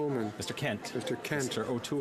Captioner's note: some Applause